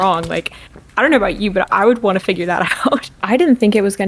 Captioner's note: laughs